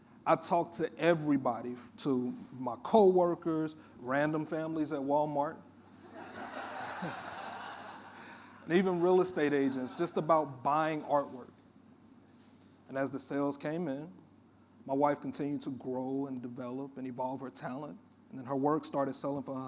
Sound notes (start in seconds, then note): 6.1 audience laughing